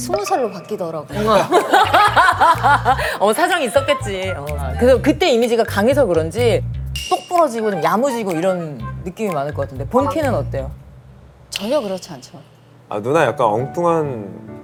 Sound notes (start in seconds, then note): 1.1 hahaha